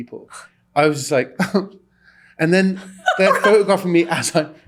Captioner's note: crying noise